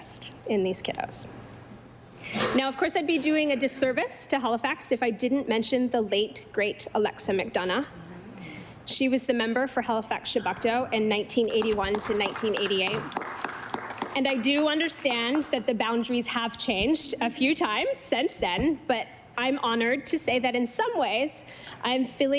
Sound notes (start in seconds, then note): 16.3 applause